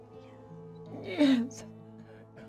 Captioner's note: crying